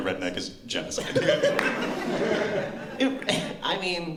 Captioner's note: laughter